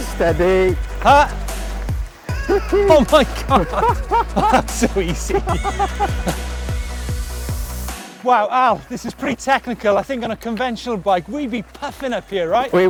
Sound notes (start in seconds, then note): 4.2 both laughing; 6.6 laughs